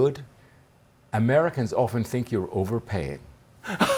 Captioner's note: laughter